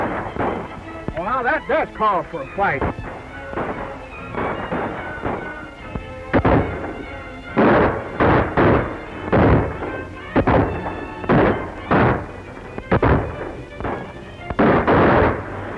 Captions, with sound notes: Now that does call for a fight. [gunshots] [gunshot] [gunshot] [gunshot] [gunshot] [gunshot] [gunshot] [gunshots]